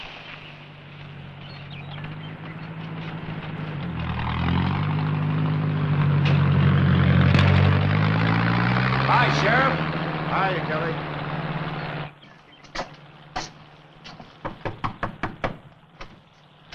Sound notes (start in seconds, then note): 4.4 engine rumbling